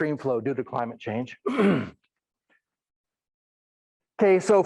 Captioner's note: clears throat